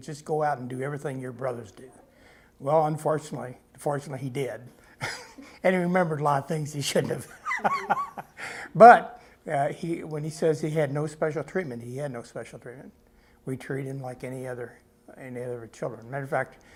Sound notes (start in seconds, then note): 7.3 laughs